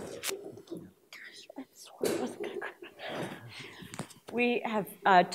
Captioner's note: whispers